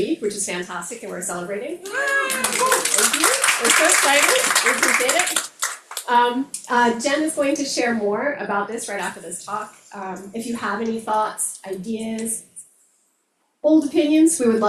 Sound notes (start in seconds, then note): 1.8 crowd members cheering; 1.8 crowd members clapping